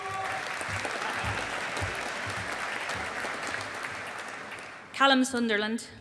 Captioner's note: audience applauding